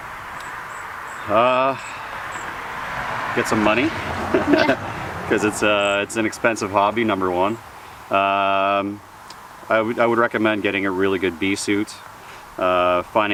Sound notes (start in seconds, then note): 3.8 laughs